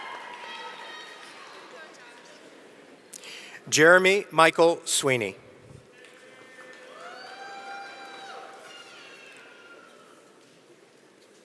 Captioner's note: cheering